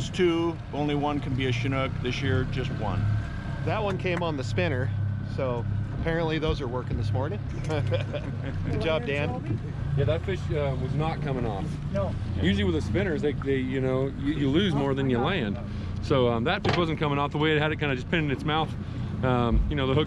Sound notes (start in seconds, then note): 3.4 boat engine idling; 7.5 chuckling